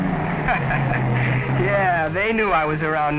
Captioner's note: laughing